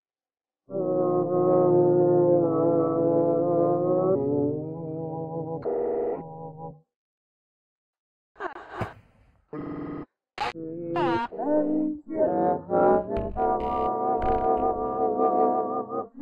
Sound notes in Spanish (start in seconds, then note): 1.1 tarareo distorsionado